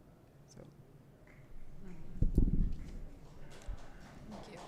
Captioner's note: applause